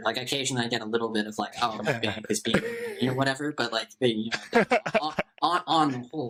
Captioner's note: laughter